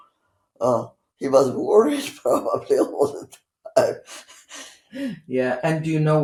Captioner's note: laughing